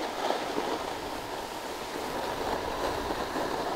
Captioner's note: snow crunching